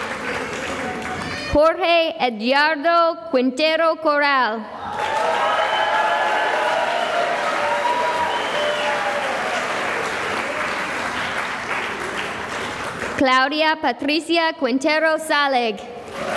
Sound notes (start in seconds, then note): 0.0 applause; 4.8 cheering and applause